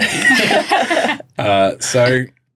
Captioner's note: all laughing